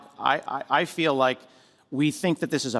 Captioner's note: none